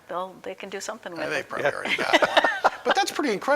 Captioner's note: laughing